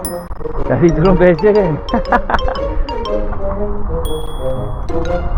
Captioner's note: laugh